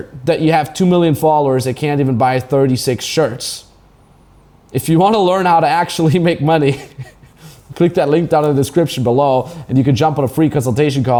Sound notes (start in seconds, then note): 6.5 laughing